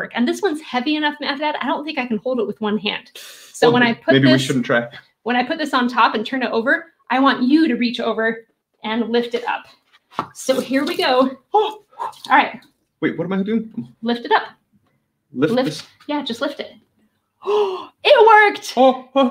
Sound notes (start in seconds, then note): 3.3 inhales; 11.5 exclaiming; 11.9 water splashing; 17.4 gasps